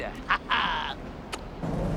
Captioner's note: laughs